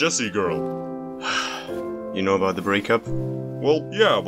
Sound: sigh

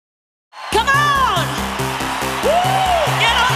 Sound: audience cheering

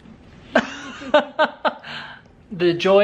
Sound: laughs

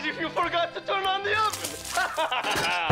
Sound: laughs

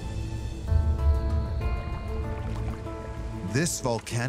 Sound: suspenseful music; waves lapping

